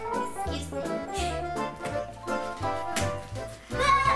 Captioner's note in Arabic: يسخر